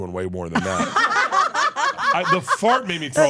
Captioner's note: laugh